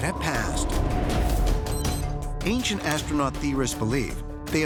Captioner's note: beeping